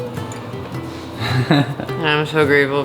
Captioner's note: laughing